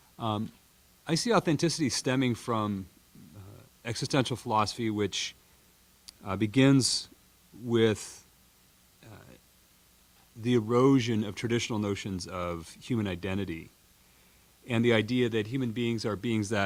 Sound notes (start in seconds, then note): none